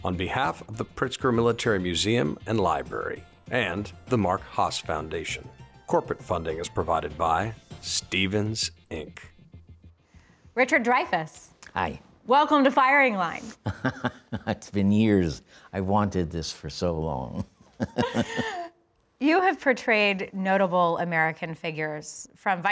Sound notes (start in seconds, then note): 13.6 Dreyfuss laughing; 17.4 Dreyfuss and Hoover laughing